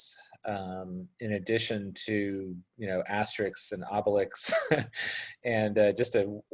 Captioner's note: laughs